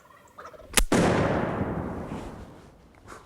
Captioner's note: turkey Gobbles; gunshot